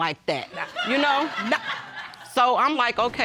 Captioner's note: laughter